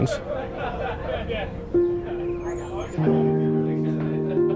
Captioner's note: people laughing